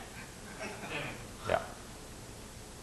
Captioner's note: laughing